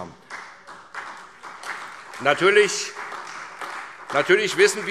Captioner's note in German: Beifall SPD